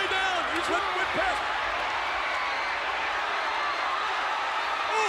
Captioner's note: audience cheers